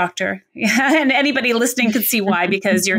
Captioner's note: laughs